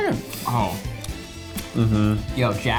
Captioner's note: humming